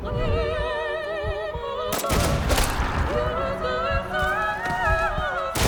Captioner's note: muffled gunshots; gunshot